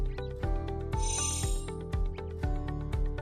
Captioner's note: chiming